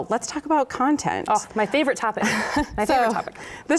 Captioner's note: chuckles